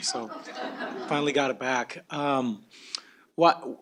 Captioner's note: laughter